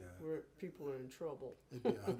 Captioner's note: chuckles